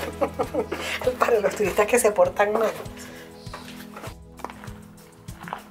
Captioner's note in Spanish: risas